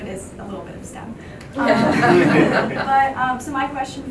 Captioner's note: group laughing